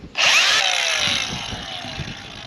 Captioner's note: grinder whirring